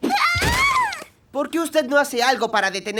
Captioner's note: screaming